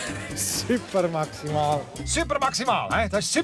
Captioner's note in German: Lachend